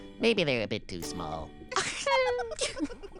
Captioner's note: giggling